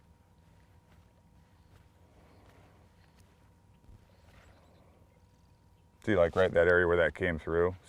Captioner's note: birds singing; whipping rod lightly